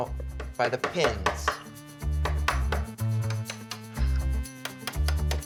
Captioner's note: hammer banging